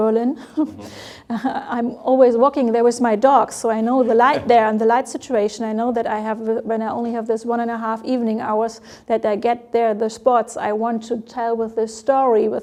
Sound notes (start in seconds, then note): 0.4 laughs